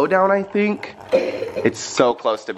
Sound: coughs

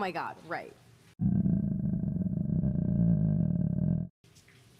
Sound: Kate' stomach growling

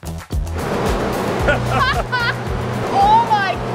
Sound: both chuckle

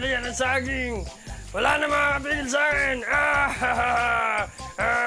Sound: laughs

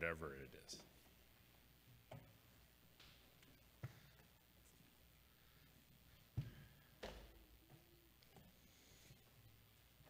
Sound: footsteps

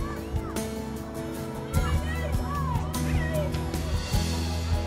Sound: kids chattering

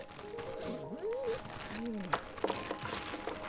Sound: dog whine

